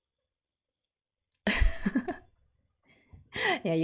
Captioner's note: laughs